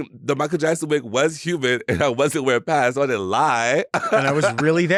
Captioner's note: laughs